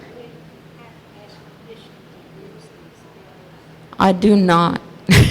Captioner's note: murmurs